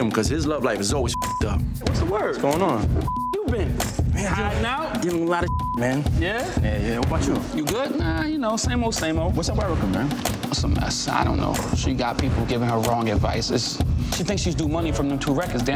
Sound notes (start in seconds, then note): 3.0 beep; 5.4 beep